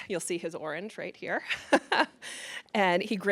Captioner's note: chuckles